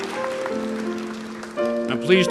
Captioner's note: applause